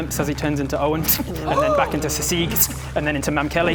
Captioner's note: sssk!